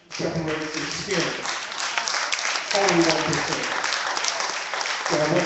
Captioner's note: clapping